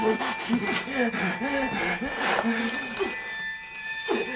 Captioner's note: shuffling